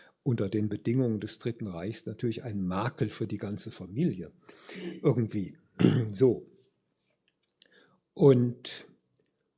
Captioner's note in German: räuspern